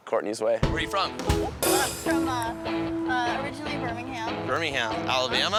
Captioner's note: stammers